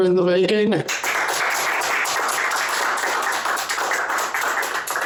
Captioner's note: applause